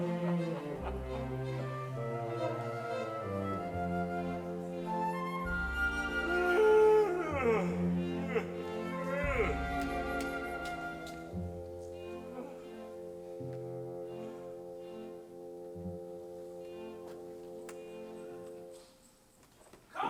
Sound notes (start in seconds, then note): 0.2 cheerful orchestra music; 6.3 Frank yawns; 10.3 slow orchestra music